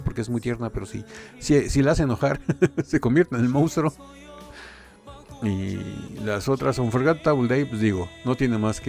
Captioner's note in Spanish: risas